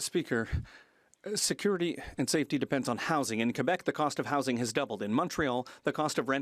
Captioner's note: speaking French